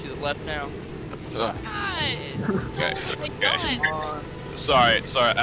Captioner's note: peeing